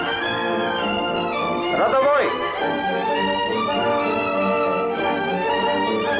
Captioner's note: gun blasting; soldier yelling in Russian